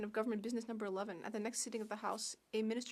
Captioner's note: speaking French